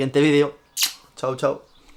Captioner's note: kisses